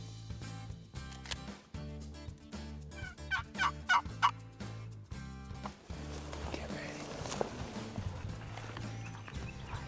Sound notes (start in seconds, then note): 3.0 turkey call yelps